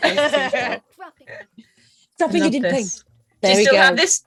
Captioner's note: impersonating